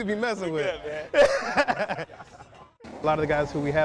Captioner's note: laughing